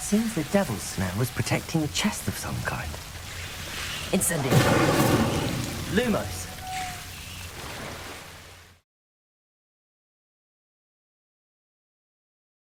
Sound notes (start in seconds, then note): 0.0 rain pattering; 3.2 rain pattering; 4.2 spell exploding; 6.9 rain pattering